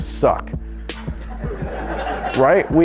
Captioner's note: audience laughing